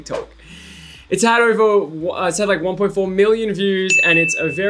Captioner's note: ping